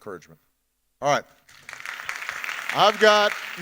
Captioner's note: audience applauding